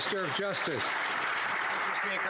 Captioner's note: some Applause